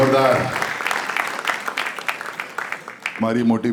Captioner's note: crowd applauding